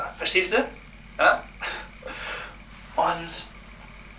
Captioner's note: chuckling mysoginistingly